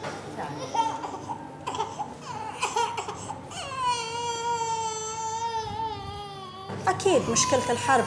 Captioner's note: crying